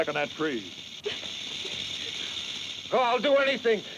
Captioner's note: snake rattles